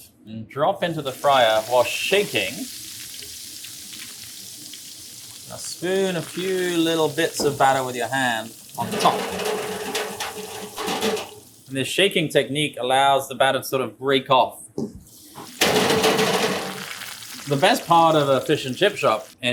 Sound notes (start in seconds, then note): 2.7 oil sizzles; 8.8 cage rattles; 15.0 oil sizzles; 15.6 cage rattles